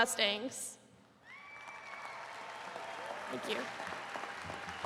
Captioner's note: attendees cheering